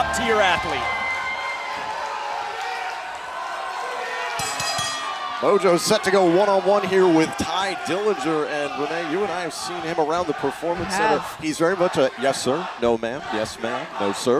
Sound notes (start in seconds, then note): 4.3 bell ringing